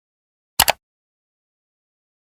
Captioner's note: mouse click sound effect